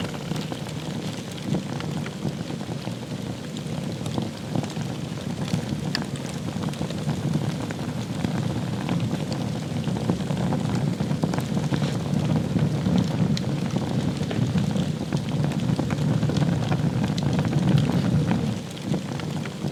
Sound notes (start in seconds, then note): 0.2 fire crackling; 7.7 fire crackling continues; 15.9 fire crackling continues